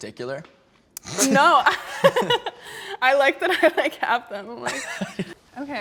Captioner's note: laughs